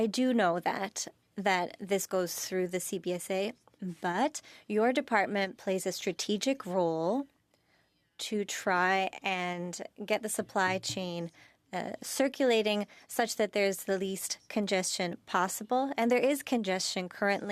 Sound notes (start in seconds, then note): 4.0 speaking French